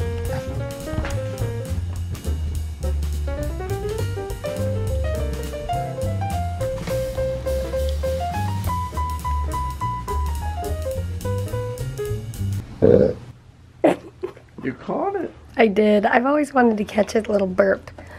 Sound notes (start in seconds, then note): 12.8 burps